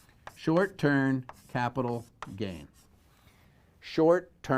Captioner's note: pen knocking